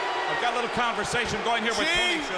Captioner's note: crowd cheering